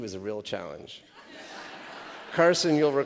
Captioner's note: laughter